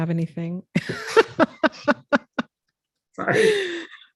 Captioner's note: laughs